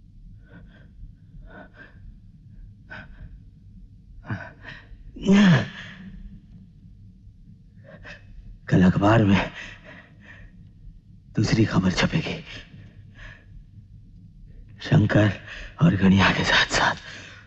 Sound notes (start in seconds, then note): 5.1 groans